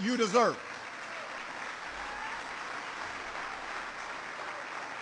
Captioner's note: applause